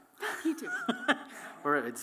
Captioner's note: laughs